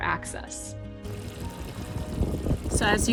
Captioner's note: water splashing